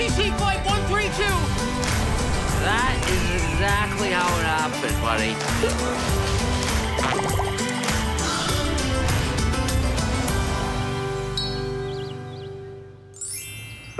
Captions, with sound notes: That is exactly how it happened, buddy. (Gasping)